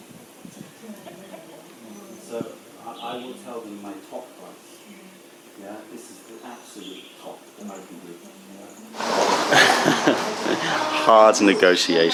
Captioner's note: chinese